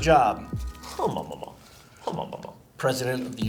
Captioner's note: Ben hums